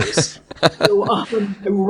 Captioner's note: laughs